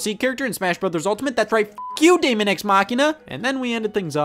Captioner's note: beep